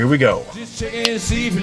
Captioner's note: snaps